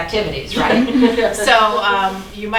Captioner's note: laughing